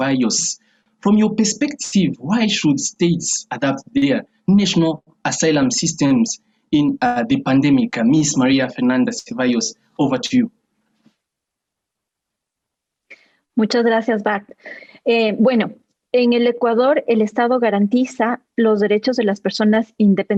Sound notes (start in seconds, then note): 14.4 Spanish